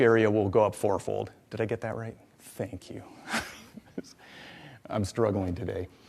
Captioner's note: laughs